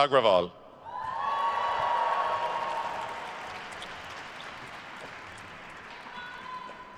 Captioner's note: attendees cheering and applauding